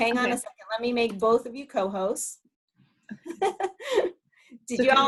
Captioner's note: laughs